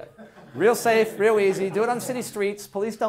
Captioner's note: class laughing